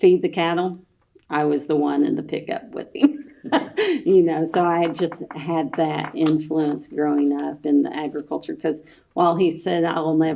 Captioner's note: laughs